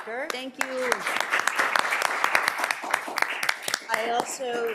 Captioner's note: everyone applauding